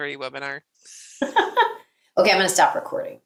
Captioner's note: both laughing